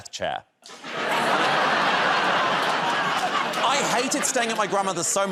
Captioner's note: laughter